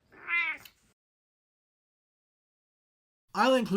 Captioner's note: meow!